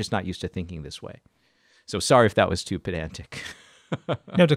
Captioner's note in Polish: śmieje się